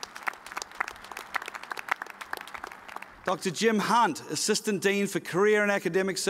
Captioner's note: applause